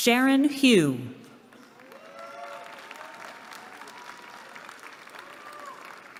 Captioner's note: applause